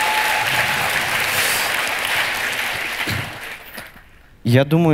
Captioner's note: the audience cheers